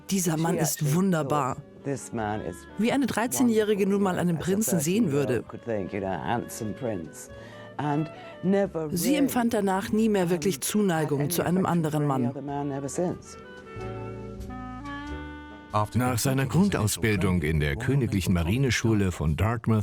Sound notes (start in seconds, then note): 14.7 voiceover